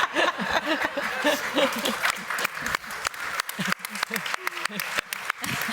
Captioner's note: laughter; applause